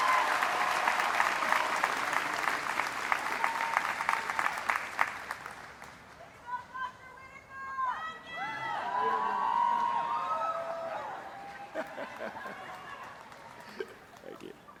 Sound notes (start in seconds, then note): 9.1 applause